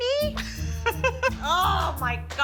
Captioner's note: laughter